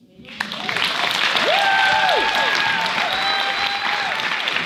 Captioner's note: audience cheers and applauds